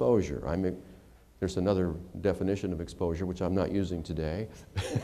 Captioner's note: laughter